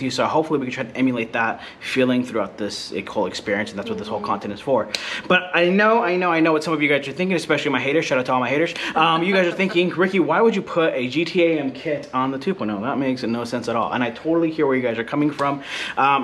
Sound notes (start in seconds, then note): 8.9 laughs